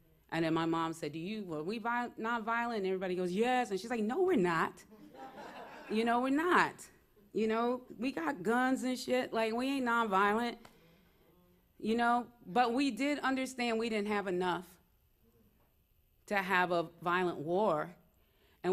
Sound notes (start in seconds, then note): 4.9 laughter